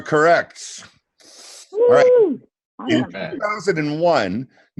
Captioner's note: cheering